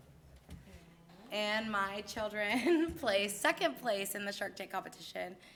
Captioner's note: laughs